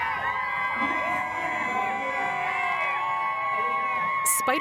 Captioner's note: crowds cheering